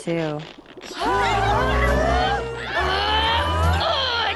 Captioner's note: grunts and groans